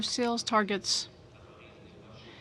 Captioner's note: speaking French